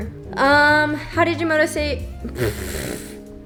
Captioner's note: exhale